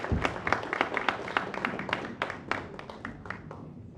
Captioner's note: applause